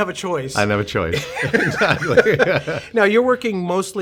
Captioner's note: laughs